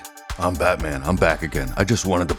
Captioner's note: Deep Batman Voice